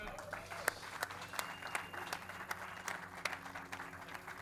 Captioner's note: audience claps; claps